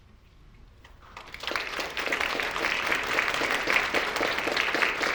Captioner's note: audience applauding